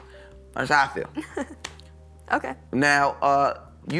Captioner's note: chuckles